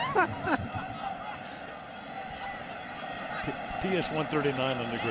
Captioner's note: laughter